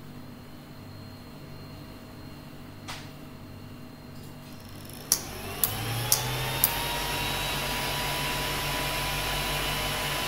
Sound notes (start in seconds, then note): 4.7 whirr; 5.6 click click click click